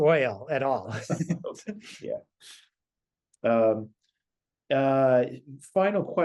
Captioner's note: laugh